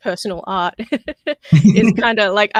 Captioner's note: laughs